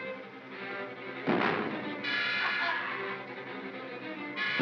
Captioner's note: suspenseful music; bang; Barnaby cackles